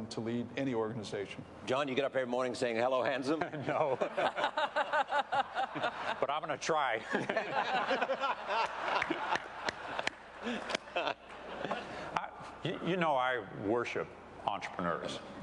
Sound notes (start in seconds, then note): 7.0 laughter